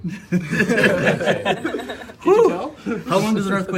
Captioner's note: laughter